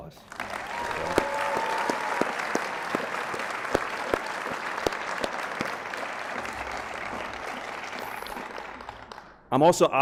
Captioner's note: applause